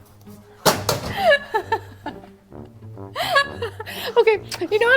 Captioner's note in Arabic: تضحك